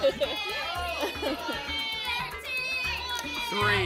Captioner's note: laughter; audience shouting numbers